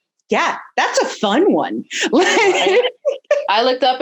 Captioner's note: laughs